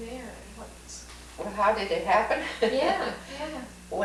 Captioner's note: laughs